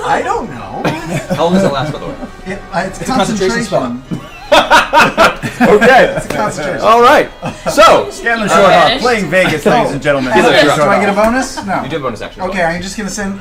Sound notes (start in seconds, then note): 4.1 all laugh